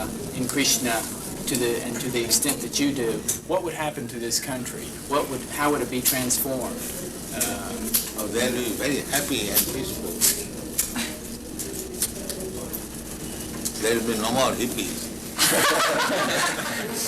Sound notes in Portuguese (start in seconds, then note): 15.4 risos